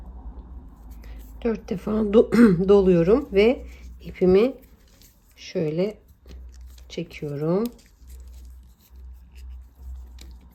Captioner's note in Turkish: boğazını temizler